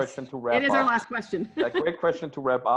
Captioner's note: laughing